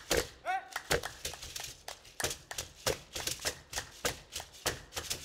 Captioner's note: hands clapping and beads rattling